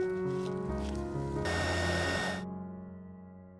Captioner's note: heat gun whirring